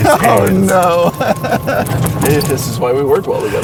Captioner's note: laughs